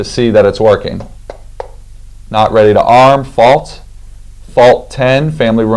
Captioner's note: tapping